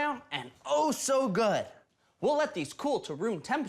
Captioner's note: none